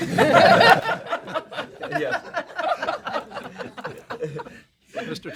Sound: laughter

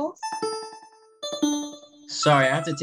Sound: call alerting

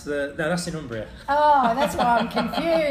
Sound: laughs

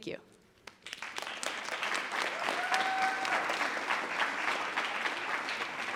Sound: attendees applauding

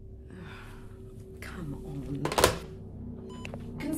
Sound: sighs; intercom beep

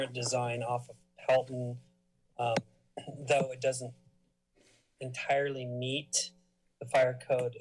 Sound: coughs

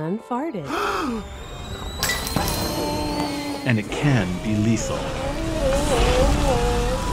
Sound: gasps in horror

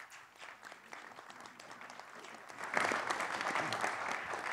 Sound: audience applauding

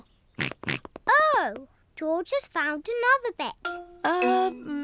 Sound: snorts

